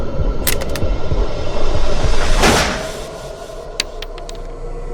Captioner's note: suspenseful music; gun clicks; gun blasts; bullet shell clicks